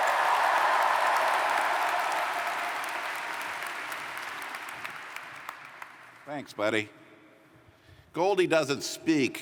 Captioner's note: cheers & Applause